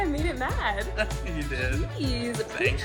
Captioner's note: chuckles